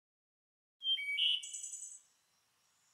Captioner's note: bird sounds